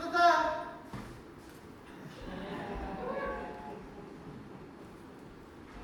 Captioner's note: audience laughs and awws